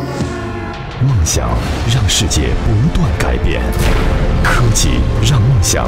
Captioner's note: narrator speaking in Chinese